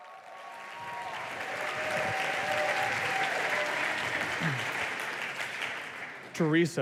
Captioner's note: applause